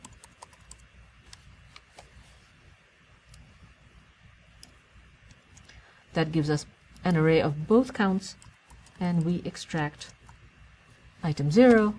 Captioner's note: pause